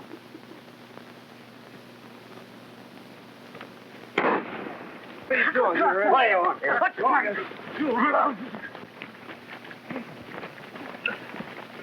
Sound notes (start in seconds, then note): 4.1 gun fires; 4.3 all clamoring; 9.9 men grunting